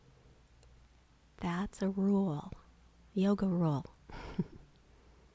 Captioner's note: laughs